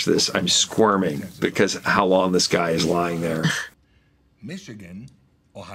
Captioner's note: chuckles